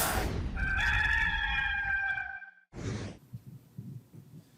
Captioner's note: rooster crowing